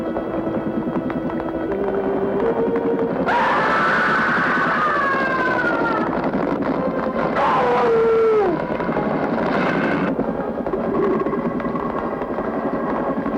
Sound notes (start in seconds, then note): 3.2 scream